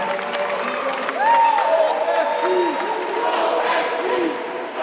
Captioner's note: audience cheers and applauds